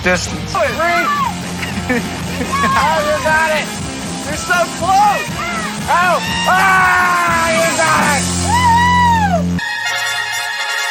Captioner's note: everyone cheering from the sidelines